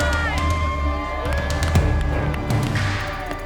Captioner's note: cheering; upbeat dramatic music